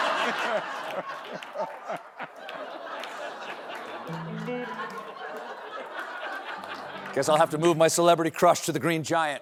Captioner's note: laughter